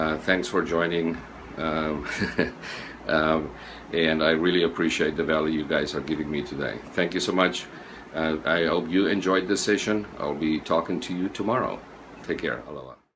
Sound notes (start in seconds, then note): 2.0 laughing